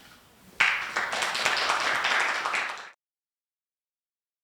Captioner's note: applause